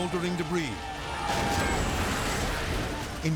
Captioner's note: people shouting; wall crashing